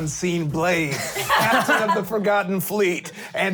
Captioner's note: laughing